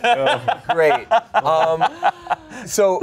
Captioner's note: laughs